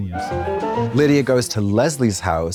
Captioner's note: bright chime